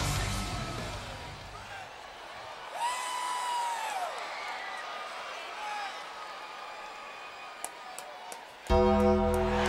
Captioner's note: applause